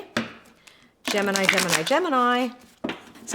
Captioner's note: cards shuffle